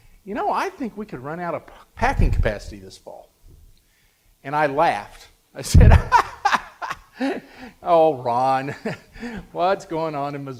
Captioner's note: laughs